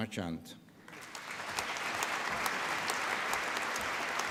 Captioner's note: applause